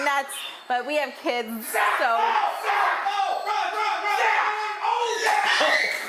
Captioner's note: men screaming; child crying